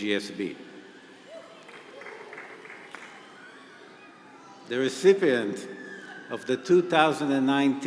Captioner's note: applause